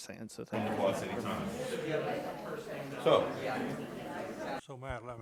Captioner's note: faintly speaking